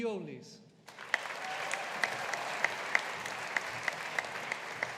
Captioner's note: audience applauding